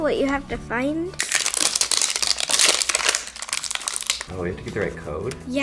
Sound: wrap crinkling

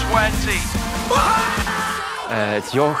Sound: excited shouting

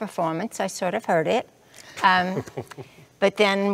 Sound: laughs

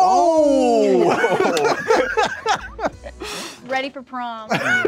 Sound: all laughing

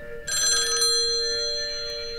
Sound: phone ringing

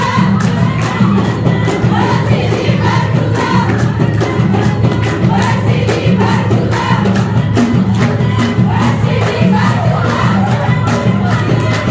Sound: applause

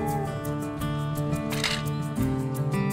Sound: equipment dropping on ground

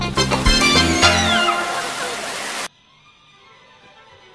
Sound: squealing

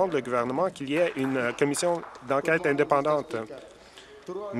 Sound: applause

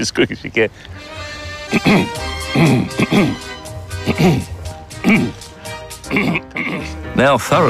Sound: grunts

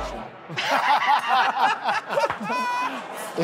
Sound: laughter

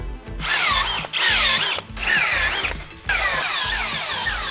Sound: drilling

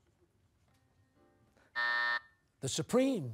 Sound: buzzer

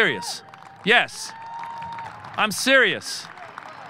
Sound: audience cheering

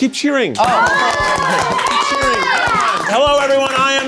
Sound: audience cheers

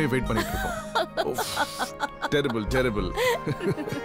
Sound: giggling

